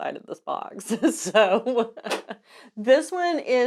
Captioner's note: laughing